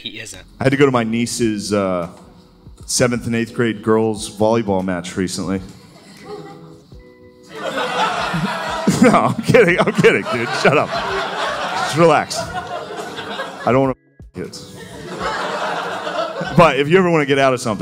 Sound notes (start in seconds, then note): 9.5 laughter